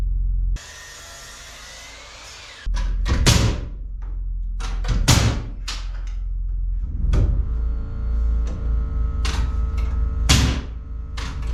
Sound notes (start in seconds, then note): 0.6 drill whirring; 4.8 hammer thudding